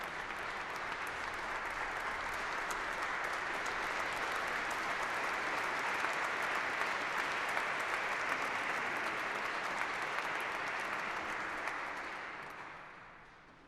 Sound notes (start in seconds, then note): 0.0 applause